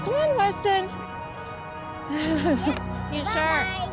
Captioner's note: gentle music continues; laughs